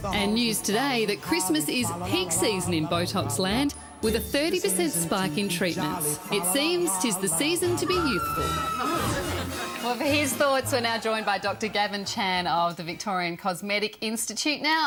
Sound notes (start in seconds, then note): 7.8 horrified scream